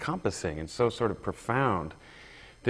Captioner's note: none